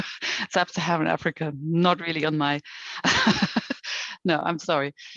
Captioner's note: chuckles